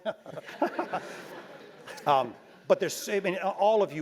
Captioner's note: laugh